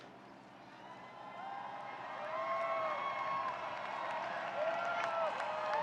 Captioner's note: audience cheering and applauding